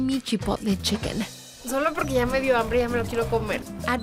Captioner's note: speaking Spanish